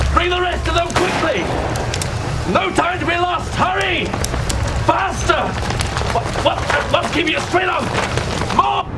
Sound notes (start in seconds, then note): 0.9 gun firing